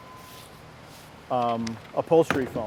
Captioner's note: shuffling